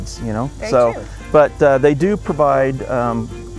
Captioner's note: laughs